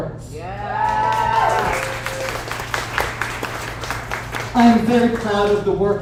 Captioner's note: audience applauds